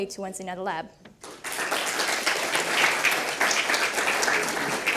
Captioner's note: audience claps